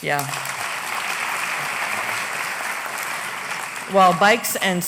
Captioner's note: applause